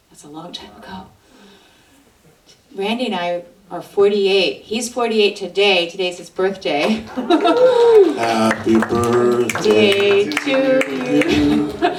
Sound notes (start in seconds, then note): 6.8 audience claps; 6.8 laughs